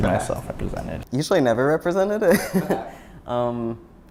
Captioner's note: laughing